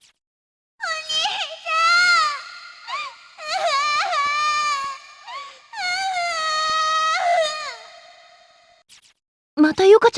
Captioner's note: crying